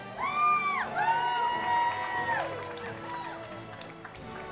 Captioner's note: audience cheers